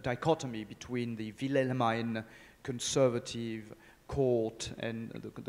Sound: speaks in foreign language

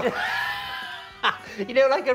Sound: laughing

